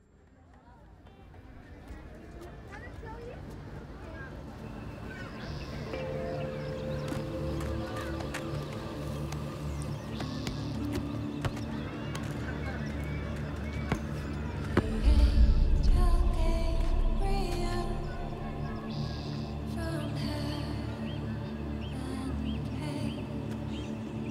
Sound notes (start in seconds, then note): 4.7 birds chirping; 4.7 light dramatic music